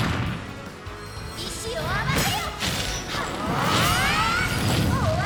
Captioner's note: speaking Japanese